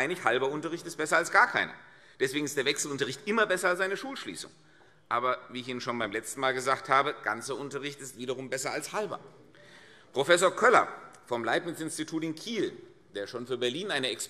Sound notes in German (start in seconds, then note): none